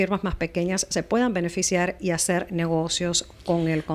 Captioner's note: Hablando ingl\s